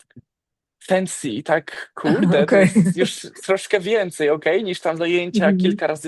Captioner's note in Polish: śmiech